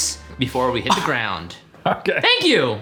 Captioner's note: laughing